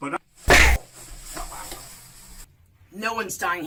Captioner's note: loud thwack; Dawn Avenger groans